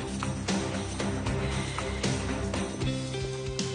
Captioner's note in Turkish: Ali Rıza derin nefes alıp verir